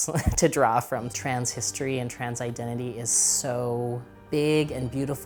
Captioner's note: chuckles